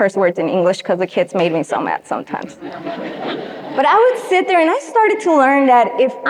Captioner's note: audience laughs